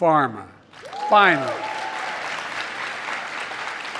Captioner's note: applause